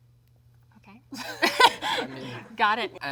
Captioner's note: Zendaya laughs